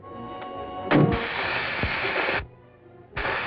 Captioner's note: torch noise